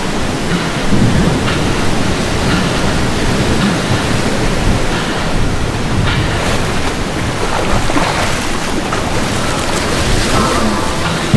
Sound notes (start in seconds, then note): 5.2 more splashing; 9.4 piano clank